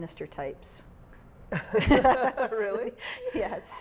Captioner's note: laughing